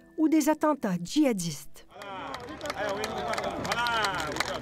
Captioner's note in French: applaudissements